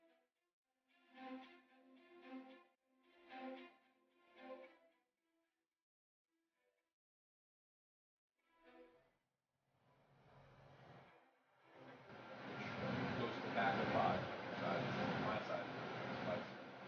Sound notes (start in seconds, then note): 12.2 indistinct chatter